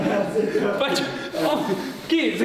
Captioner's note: laughing